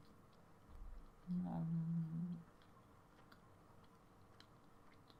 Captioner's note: omnomnomnomnom